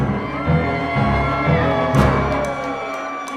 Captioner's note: people cheering